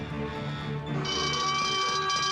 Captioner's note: alarm bell ringing